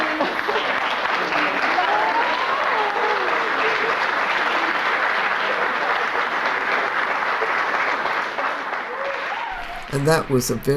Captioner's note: applause